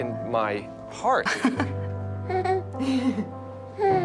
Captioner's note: Helen and Luna laugh